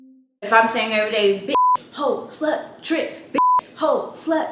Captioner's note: beep; beep